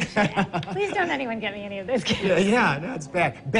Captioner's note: laughing